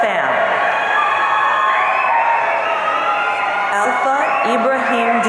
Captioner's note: audience cheering